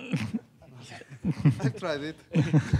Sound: laughter

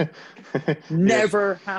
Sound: laughs

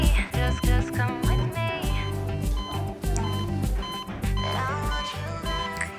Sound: heart monitor beeping

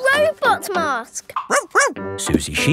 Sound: barks

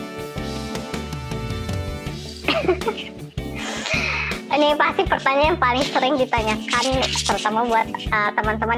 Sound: laugh

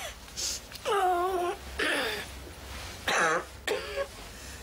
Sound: Gran wheezing

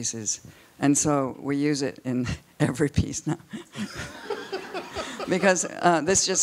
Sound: laughs

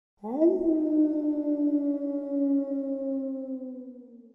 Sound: lion roaring

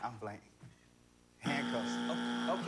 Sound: buzzer

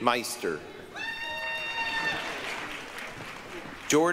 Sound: applause, cheering

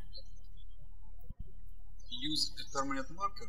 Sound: birds chirping

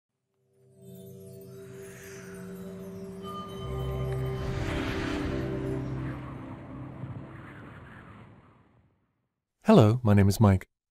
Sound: wind and music

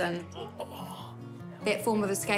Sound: grunts

